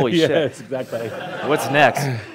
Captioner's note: laughter